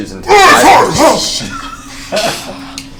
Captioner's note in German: ruft aus